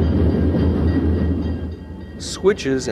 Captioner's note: crossing bells dinging